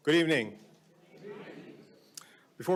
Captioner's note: audience responds